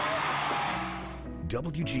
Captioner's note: crowd cheering